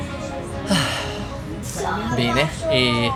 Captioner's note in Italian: sospiri